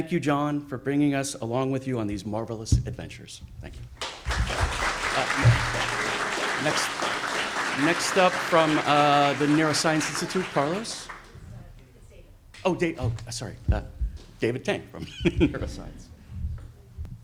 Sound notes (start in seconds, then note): 4.0 audience applauds; 11.7 speaking faintly